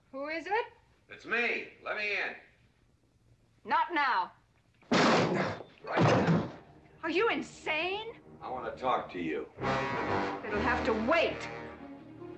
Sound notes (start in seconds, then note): 5.9 door crashing open; 8.0 tense music